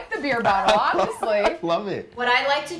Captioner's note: laughs